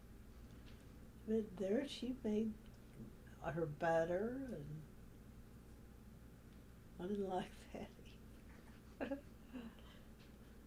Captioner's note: laughs